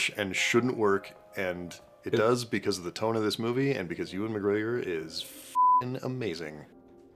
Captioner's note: beeping